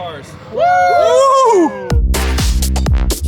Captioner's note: they whoop; upbeat dubstep music